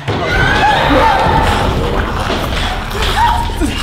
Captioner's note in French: Le monstre rugit et mastique